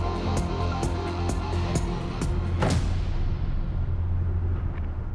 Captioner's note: door slams